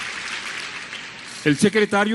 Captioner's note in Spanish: aplausos